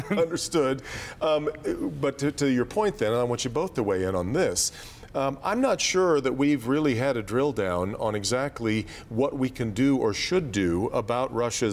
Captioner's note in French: laughter